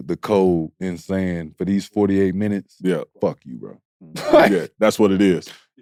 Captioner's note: laughs